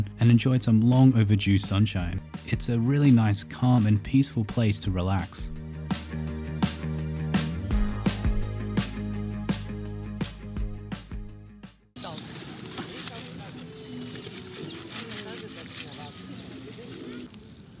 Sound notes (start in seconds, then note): 11.9 street noise